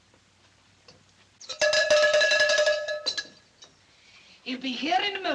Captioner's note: bell Clangs